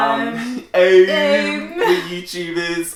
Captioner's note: mocking pronunciation